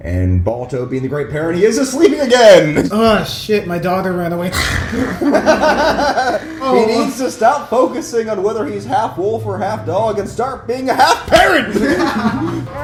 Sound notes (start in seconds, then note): 6.1 snores